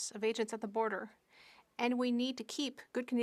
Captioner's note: speaking French